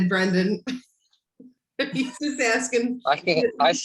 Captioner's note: laughing